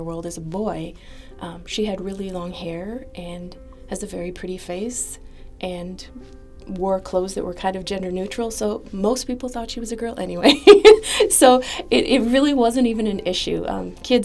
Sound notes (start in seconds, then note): 10.5 laugh